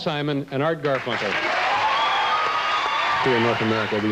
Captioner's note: audience applause